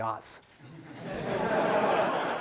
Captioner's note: laughing